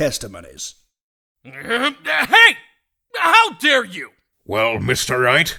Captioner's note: growl